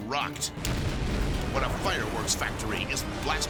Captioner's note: explosion booms